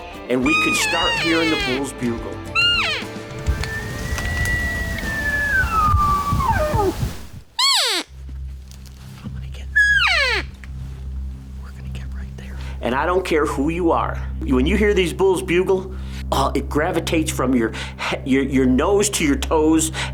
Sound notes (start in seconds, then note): 2.4 elk bugling; 2.5 elk call chirping; 9.2 suspenseful music